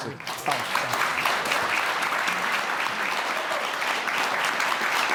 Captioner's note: audience clapping